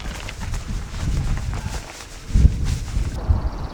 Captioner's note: struggling